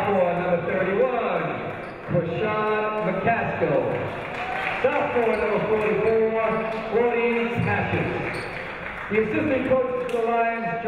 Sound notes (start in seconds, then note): 3.6 crowd applauds